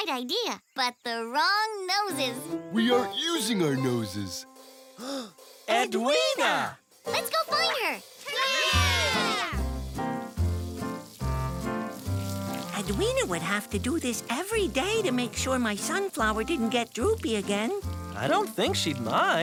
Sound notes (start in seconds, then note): 4.6 gasp; 8.2 cheering